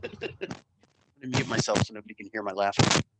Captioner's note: laughing